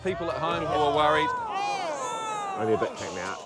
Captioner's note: audience groans